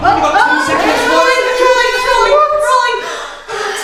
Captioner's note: alarm blaring